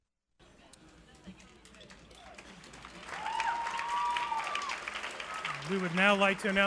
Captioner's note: clapping